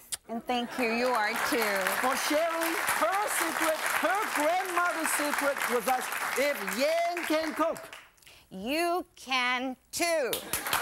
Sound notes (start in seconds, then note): 0.6 crowd; 0.8 applause